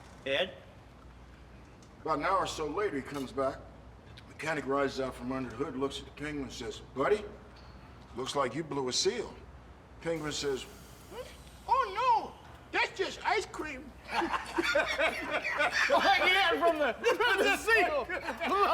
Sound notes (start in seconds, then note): 10.7 high pitched; 13.9 laughter